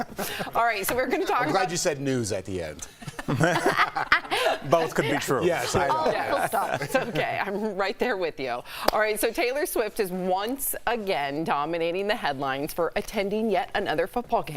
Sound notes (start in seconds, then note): 5.7 laughter